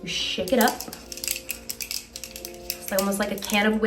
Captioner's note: can rattles